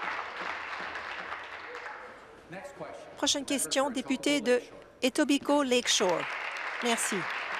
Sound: applause

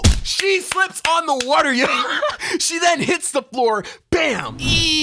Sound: clapping

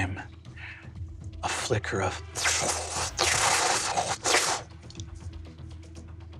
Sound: mimics mystical susurration

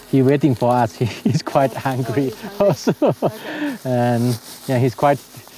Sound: laughing

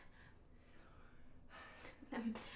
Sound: sighs

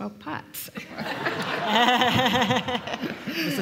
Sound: laughter

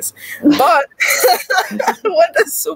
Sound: laughs

